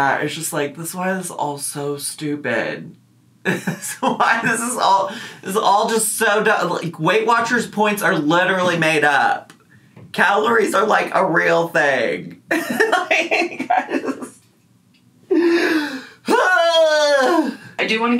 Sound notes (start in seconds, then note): 12.6 laughs; 16.3 yells